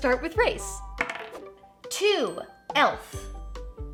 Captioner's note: die clacks